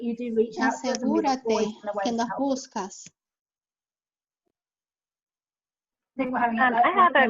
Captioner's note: someone speaking in a foreign language